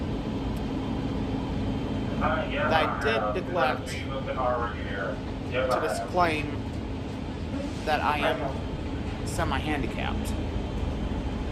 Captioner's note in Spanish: Charla indistinta